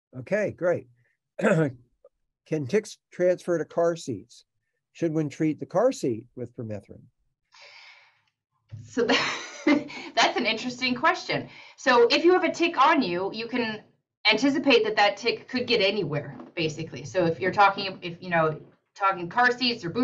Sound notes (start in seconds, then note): 9.4 laughs